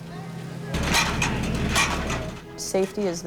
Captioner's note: metal ladder clanging